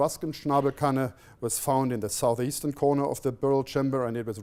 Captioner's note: non-english speech